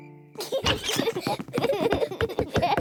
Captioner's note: both giggle